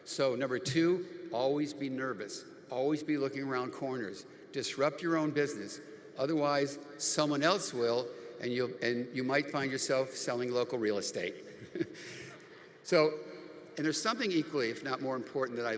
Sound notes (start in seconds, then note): 11.4 chuckles